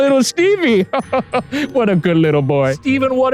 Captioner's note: laugh